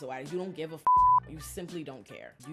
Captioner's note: beep